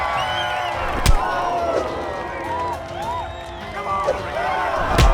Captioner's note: crowd cheering; crowd gasping